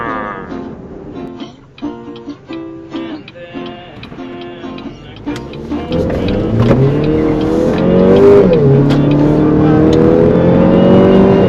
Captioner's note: click, click, click, click, click, vroom